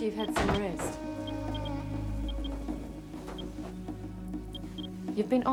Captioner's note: geiger counter beeps